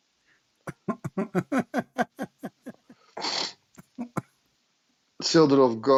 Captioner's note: Ketawa